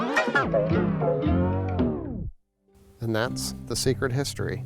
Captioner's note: tape rewinds